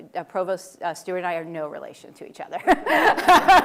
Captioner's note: laughter